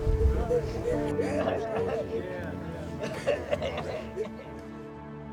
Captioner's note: crying